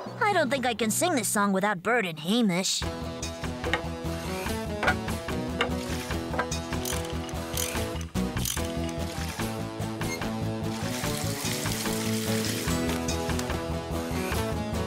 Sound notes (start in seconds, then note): 7.0 clicking; 10.7 splashing